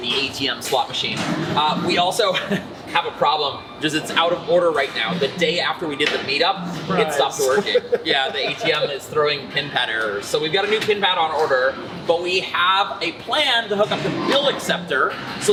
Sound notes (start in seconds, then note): 2.2 chuckles; 7.3 laughter